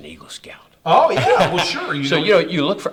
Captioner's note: laughs